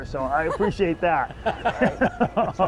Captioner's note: everyone laughs